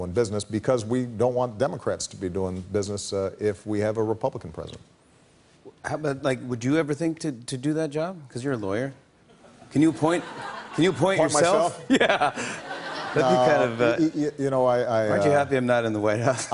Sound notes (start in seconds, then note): 11.6 laughter; 11.8 laughing